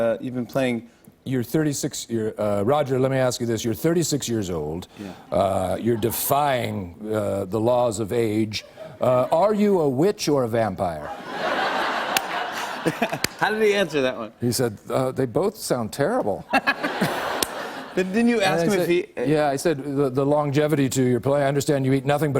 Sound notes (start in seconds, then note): 11.0 laughter; 13.2 normal voice